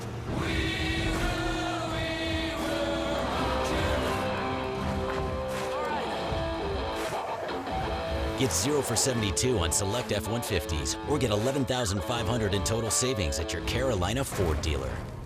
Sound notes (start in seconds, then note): 8.7 voiceover